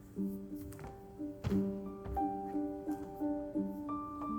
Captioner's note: footsteps